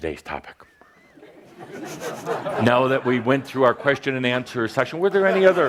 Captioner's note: laughter